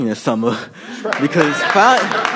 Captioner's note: applause